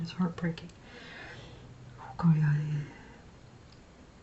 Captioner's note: foregin language